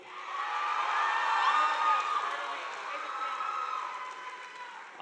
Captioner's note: audience applauding